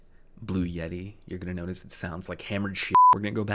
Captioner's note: beep